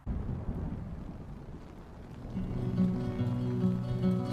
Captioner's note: thunder crashing; light music